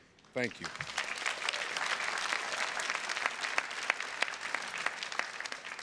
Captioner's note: audience applauding